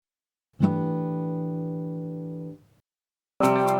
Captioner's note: chime sounds; upbeat music